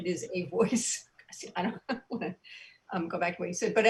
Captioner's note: soft laughs